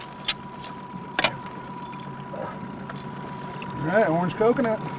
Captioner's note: clanking